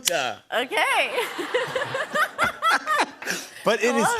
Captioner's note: laughter